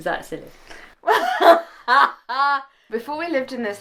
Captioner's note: laughing